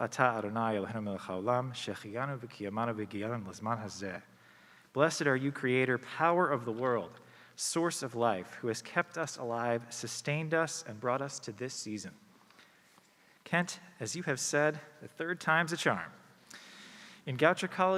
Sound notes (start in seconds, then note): 2.8 speaking hebrew